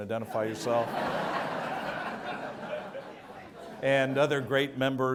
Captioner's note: audience laughs